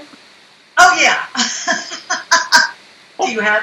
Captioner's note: laughs